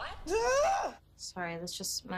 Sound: moans

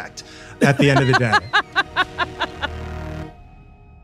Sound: laughing

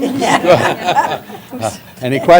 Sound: laughter

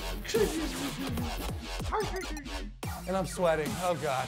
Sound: moaning

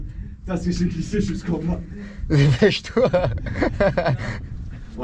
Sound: laughs

